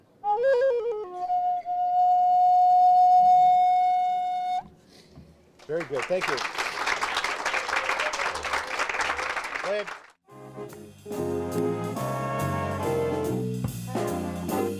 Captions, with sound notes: Very good, thank you. (audience applauds) That's it. (horn music)